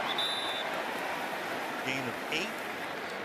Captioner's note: whistles